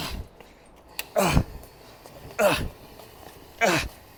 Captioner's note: grunting